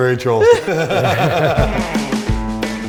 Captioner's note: everyone laughing happily; upbeat guitar music